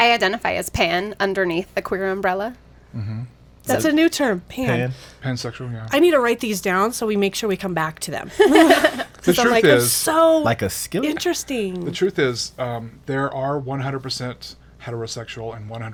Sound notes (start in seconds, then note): 8.3 group laughs